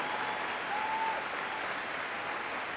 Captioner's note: applause